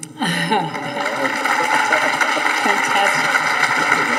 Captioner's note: audience applauding